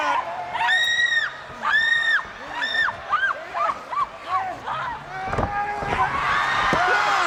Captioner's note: crowd cheering